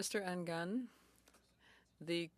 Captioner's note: speaking French